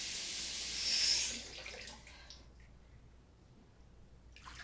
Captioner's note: water running